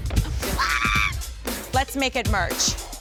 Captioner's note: funky music plays; screams